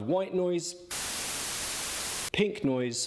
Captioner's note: static blaring